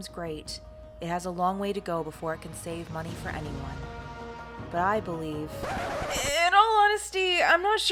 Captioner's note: record scratch